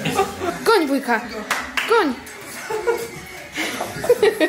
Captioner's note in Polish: śmiech